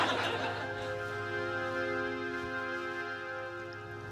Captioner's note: laughter